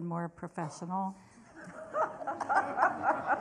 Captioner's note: laughter